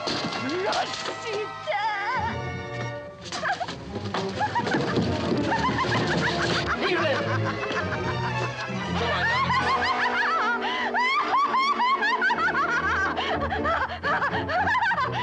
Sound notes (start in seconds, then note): 4.3 woman laughing hysterically